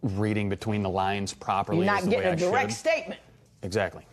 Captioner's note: none